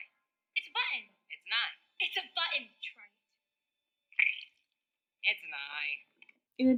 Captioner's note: squelch